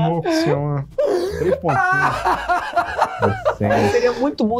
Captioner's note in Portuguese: risadas